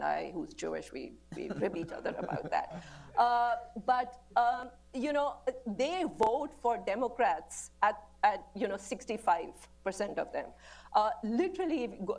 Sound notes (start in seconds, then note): 3.3 laughter